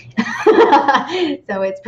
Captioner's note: laughs